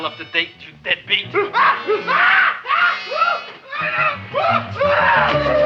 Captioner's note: man screaming